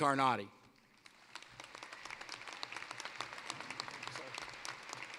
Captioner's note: applause